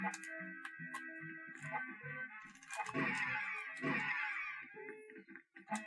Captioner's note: more repetitive sound effects